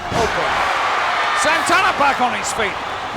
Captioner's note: audience cheering